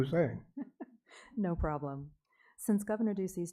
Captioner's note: chuckles